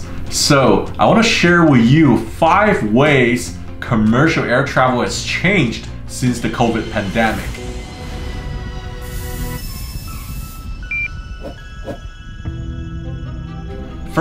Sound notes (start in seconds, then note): 8.4 aeroplane whirs; 8.9 hose whooshes; 10.7 thermometer beeps; 11.4 arrow whooshes; 13.1 dramatic instrumental music